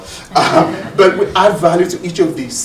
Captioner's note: audience scattered laughing